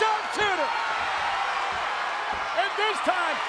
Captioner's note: crowd cheering